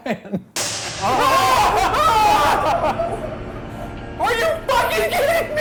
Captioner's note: screaming